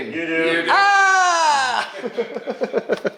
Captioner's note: exclaims triumphantly; laughing